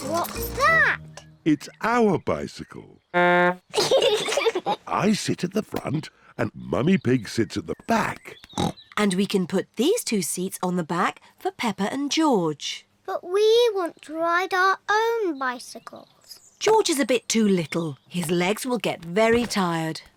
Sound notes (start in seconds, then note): 3.1 toots horn; 3.7 both giggle; 8.5 snorts